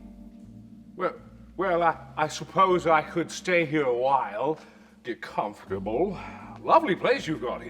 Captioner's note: sigh